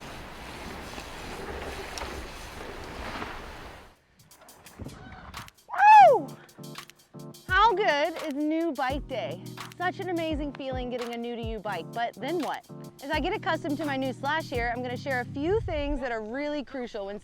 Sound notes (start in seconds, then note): 0.0 leaves rustling; 5.6 screams